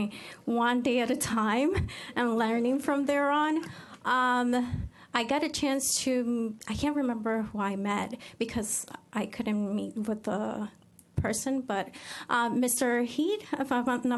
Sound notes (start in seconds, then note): none